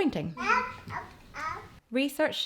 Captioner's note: babbles